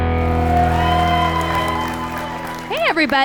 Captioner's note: cheering